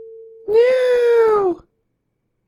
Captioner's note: in an annoying mocking voice